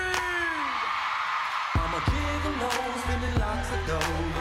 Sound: screams

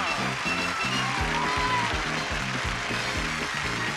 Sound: cheering

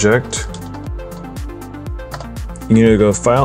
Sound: typing

